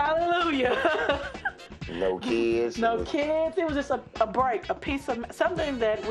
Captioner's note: laughs